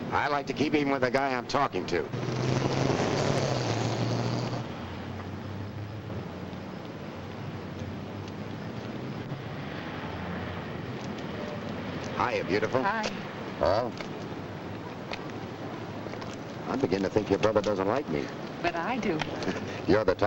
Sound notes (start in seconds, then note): 2.0 car roars away